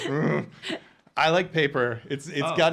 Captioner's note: groaning